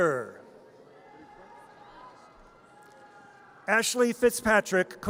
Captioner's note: audience cheers